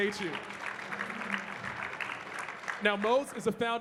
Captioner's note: audience clapping